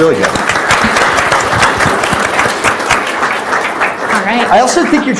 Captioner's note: audience applauds